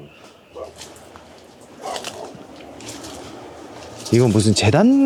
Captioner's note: the sound of walking on the leaves